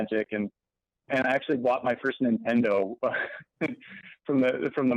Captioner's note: laughs